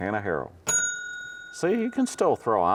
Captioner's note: bell dings